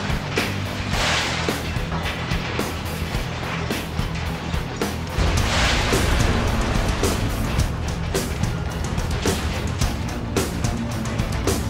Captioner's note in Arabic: انفجارات; سقوط الحطام